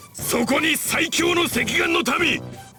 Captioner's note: none